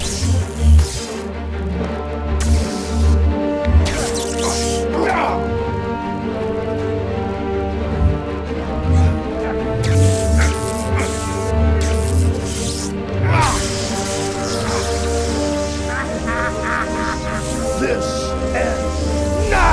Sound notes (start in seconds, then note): 0.0 tense, anxious music; 0.3 light sabers hissing; 4.8 groans; 8.8 light sabers hissing; 13.3 grunts; 16.0 villainous laughing